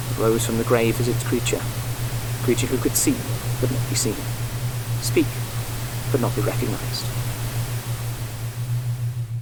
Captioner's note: static subsides